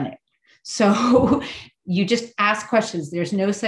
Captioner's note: chuckles